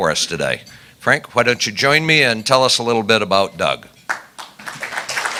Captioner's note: applause